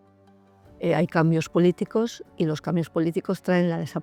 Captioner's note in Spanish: Voz off